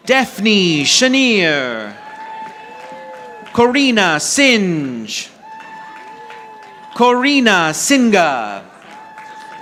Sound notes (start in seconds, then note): 1.6 audience applauding; 5.4 audience applauding